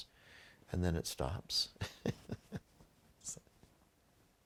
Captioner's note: laughing